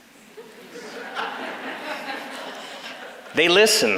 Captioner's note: background laughters